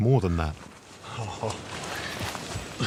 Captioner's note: chuckling